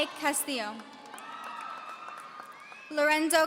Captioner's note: audience cheering